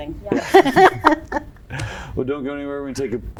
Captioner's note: laughs